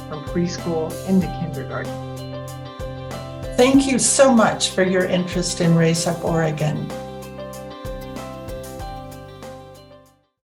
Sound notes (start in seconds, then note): 3.7 voiceover; 7.9 music fades